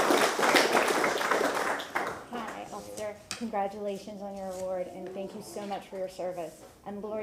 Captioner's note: applause